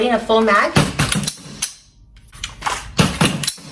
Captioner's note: gun being loaded